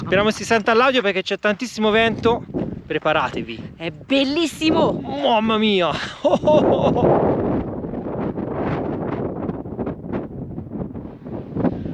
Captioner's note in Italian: risate